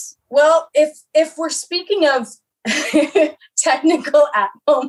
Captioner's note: laughing